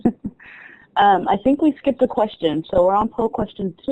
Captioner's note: laughing